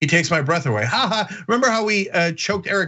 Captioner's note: laugh